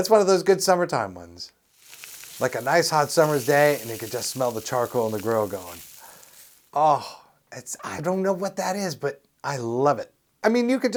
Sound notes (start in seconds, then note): 1.7 SFX: grill burning